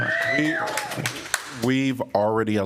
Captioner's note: applause